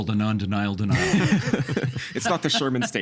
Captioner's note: all laughing